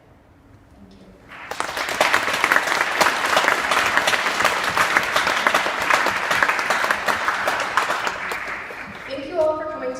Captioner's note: clapping